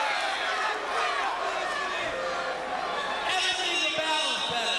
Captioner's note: crowd chatter